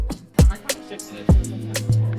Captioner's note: crowd noise